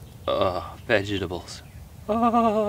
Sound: moans excitedly

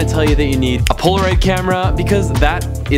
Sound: snaps fingers

